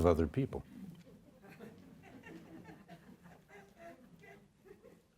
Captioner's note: audience laughs